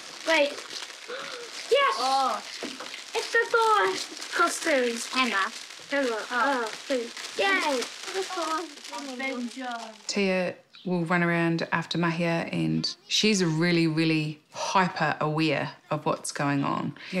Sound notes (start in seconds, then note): 1.0 gasps; 7.7 children chatter